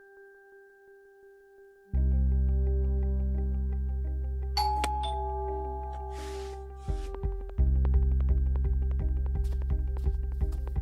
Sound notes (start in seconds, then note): 4.6 door bell rings